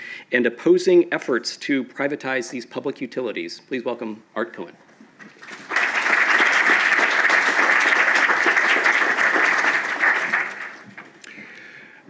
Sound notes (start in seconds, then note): 7.1 applause